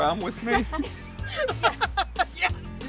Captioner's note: laughing